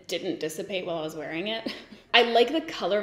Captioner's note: giggles